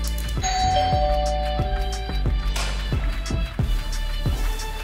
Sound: door bell ringing

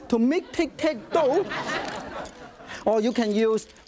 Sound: audience laughs

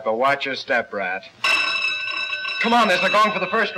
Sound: buzzer

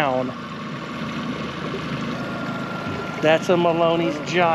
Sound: boat engine idling

